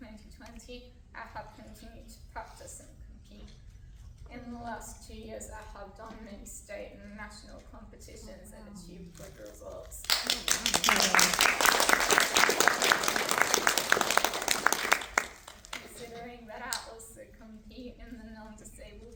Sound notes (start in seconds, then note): 13.3 applause